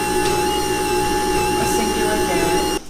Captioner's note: blending sounds